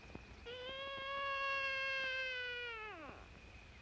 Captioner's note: baby crying